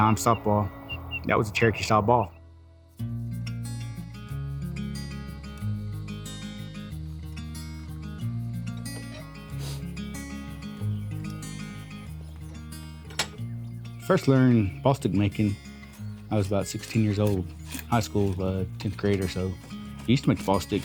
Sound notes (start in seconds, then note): 10.6 wild birds singing. Metal vice clanking